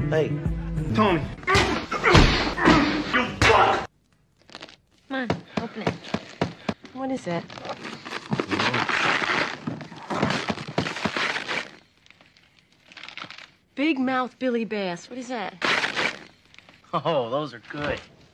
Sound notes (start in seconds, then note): 1.4 punching sound; 1.4 crotch-kneeing sound, amplified; 1.6 shoving sound; 5.2 repeated tapping sounds; 7.4 loud unwrapping sounds; 12.8 wrapping paper crumpling; 15.6 loud unwrapping sounds